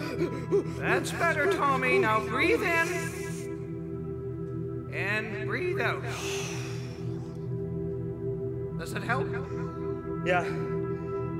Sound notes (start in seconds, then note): 2.8 breathes in; 6.4 breathes out